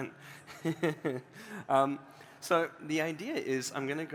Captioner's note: laughter